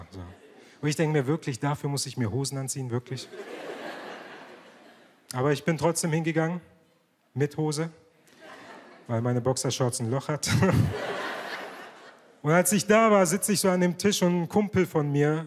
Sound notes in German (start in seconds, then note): 8.6 Lachen; 11.9 Gelächter